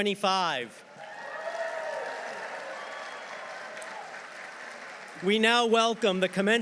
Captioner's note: audience cheering; audience applauding